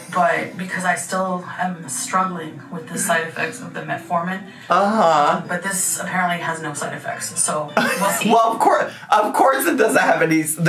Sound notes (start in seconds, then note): 7.8 laughs